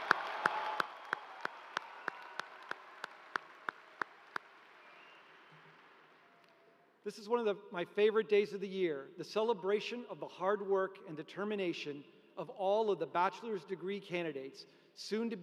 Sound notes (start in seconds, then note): 2.5 cheers and applause